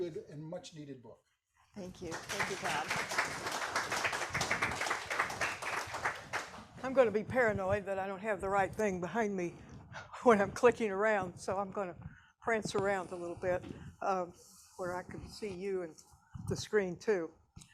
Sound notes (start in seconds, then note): 2.0 audience applauding